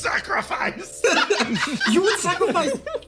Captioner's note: laughs